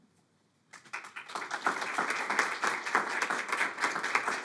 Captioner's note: audience applauding